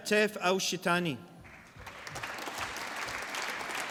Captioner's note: applause